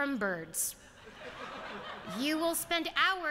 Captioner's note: laughter